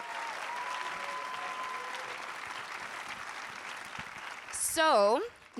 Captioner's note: audience applauding and cheering